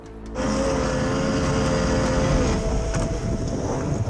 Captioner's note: outboard droning